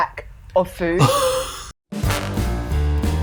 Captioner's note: laughs